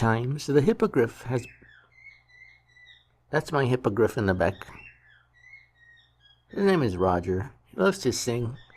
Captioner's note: bird singing